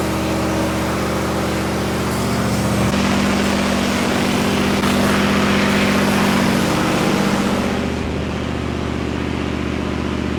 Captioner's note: engine running